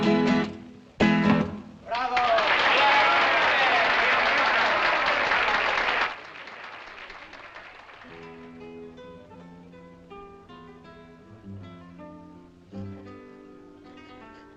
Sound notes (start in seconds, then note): 1.8 cheering; 6.4 applause Continues; 8.0 guitar Resumes